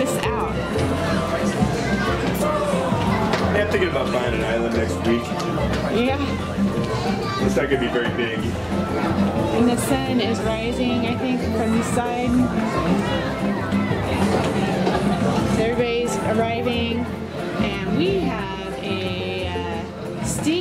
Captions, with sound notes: Check this out. - [Voiceover] We have to think about buying an island next week. - [Voiceover] Yeah. - [Voiceover] It's not gonna be very big. - [Voiceover] And the sun is rising, I think, from the side. Everybody's arriving, and we have a stingray